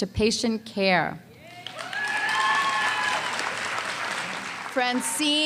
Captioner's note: cheering and applause